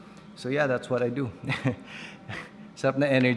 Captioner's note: chuckles